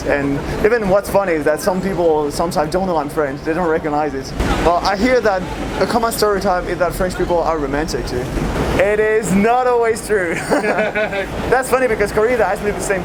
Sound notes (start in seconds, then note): 10.2 laughing